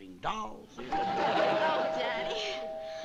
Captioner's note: doorbell rings